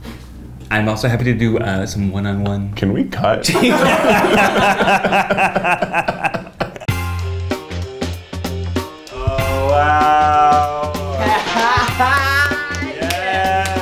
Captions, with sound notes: - I'm also happy to do some one-on-one. - Can we cut? (laughing) (upbeat music) - Oh wow, yes! - Wow!